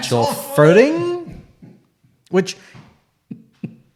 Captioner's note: laughs